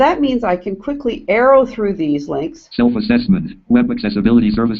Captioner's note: JAWS speaking